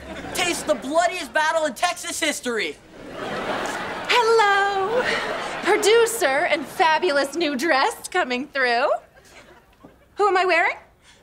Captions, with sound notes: Taste the bloodiest battle in Texas history! [laughing] Hello, producer and fabulous new dress coming through! Who am I wearing?